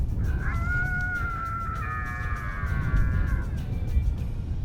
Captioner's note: female sore howls